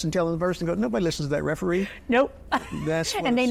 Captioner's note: chuckles